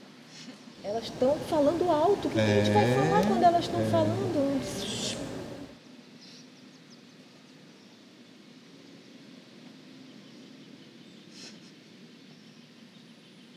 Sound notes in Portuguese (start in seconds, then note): 6.8 ruído da rua e carros ao fundo